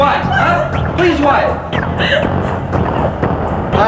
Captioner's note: crying